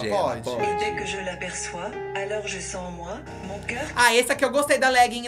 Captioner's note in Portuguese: narração em francês